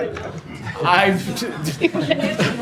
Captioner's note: laughter